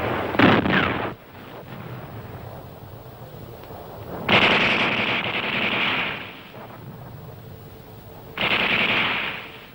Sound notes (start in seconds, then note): 0.5 explosions booming; 4.2 gunfire rattling